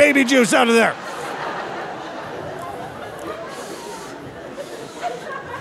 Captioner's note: audience laughing